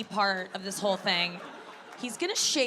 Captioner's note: audience clapping and chuckling